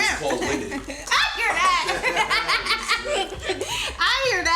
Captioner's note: laughing